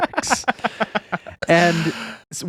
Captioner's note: laughing